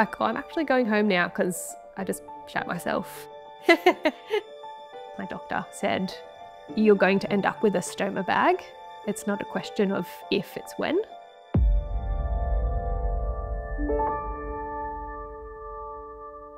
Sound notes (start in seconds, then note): 3.7 laughs